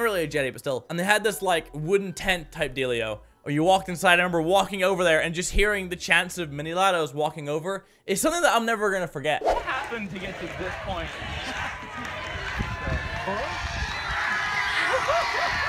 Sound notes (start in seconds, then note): 9.3 Campers chanting Mini Ladd; 12.9 cheering